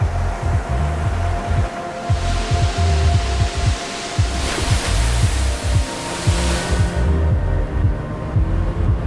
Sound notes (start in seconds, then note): 2.6 waves churn